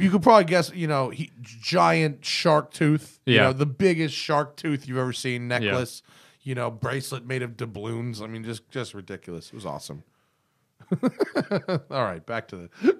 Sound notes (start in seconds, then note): 10.8 laughter